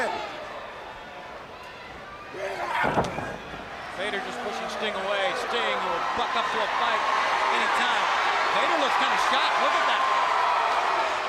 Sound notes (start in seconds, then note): 1.5 crowd chatter